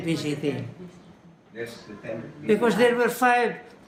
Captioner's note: chatter